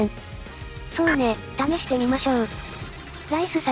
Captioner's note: beep beep beep